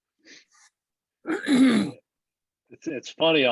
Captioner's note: clears throat